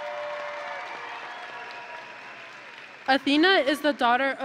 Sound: audience and graduates cheering; audience and graduates applauding

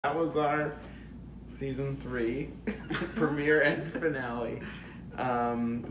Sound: laughs

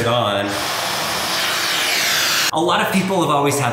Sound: vacuum whirring

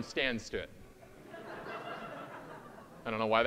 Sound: audience laughing

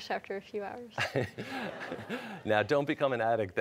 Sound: laughter

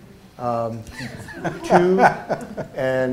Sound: laughs

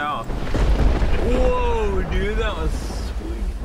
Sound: thundering

